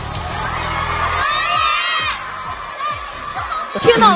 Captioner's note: fans yelling names